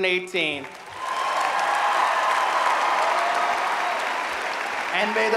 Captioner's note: audience applauding